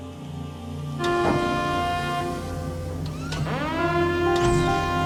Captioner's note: alarm blaring